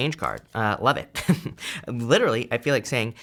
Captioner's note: chuckles